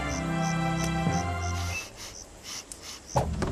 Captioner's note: sniffs